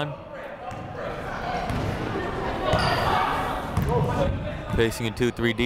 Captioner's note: people shouting in the crowd